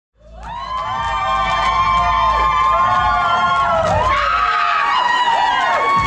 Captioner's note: cheers and applause